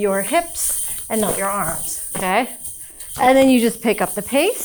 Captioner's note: hip scarf jingling